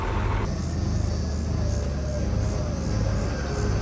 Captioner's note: engine hums